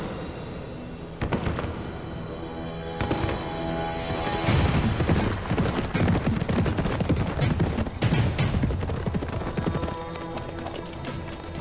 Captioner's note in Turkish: Nal sesleri